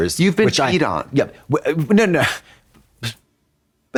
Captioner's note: none